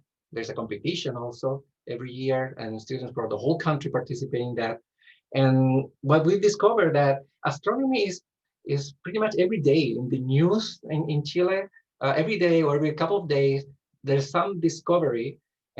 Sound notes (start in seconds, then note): none